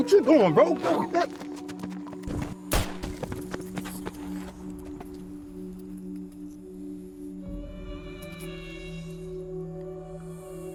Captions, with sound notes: Hey, yo, what you doing, bro? (gun bangs) (somber music)